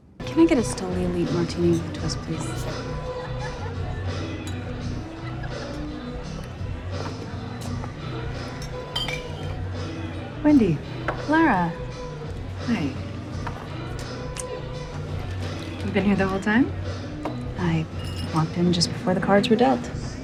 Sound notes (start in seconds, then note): 2.7 people chatting indistinctly; 2.7 upbeat music; 13.5 upbeat music continues; 14.4 lips smack